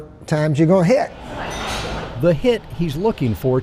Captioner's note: kitchenware clinking